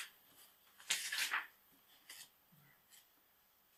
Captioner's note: pages turning